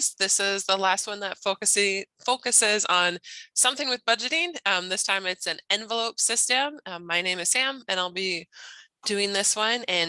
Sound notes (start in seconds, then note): none